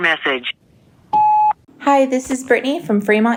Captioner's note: electronic beep